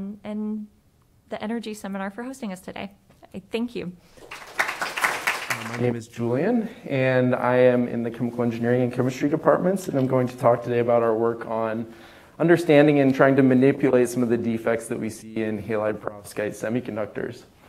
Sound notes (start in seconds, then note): 4.1 applause